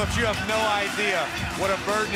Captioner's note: cheers and applause